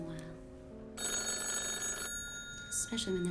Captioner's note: phone ringing